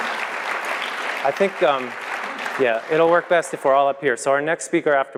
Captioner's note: applause